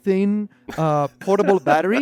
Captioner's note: laughs